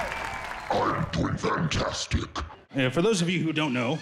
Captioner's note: monstrous voice